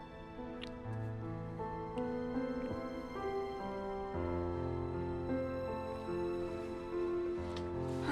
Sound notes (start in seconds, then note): 0.0 romantic music; 0.9 lips smacking